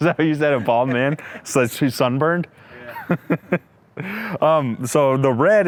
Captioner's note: laughs